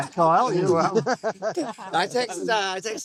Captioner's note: laughing